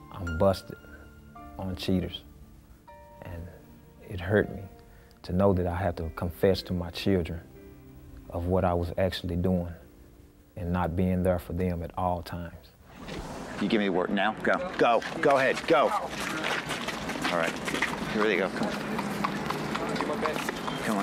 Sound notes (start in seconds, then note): 16.1 shuffling; 19.1 horse clip-clopping